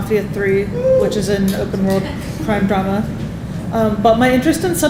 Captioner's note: attendee Cheering